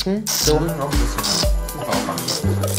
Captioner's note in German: Schlürfen